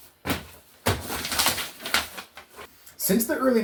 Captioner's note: spoken fast